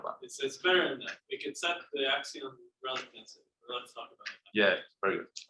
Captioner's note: faintly speaking